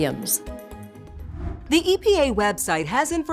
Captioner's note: air whooshes